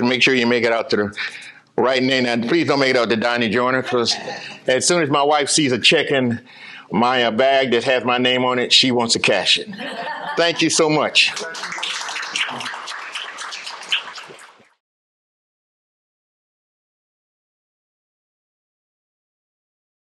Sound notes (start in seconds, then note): 11.2 applause